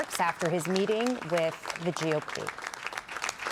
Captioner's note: applause